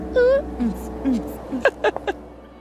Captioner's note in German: Lachen